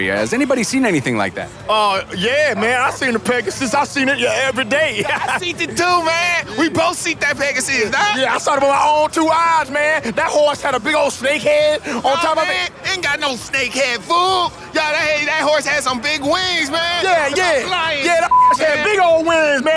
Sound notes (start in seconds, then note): 18.2 beep